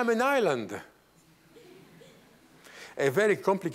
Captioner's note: laughter